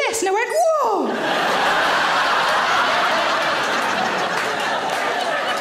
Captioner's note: audience laughing